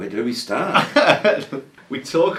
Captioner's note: presenter laughing